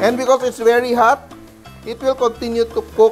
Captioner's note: sizzle